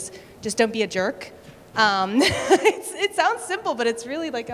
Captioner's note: laughter